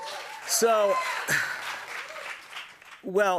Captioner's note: cheers and applause